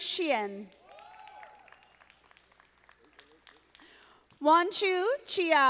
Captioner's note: audience applauding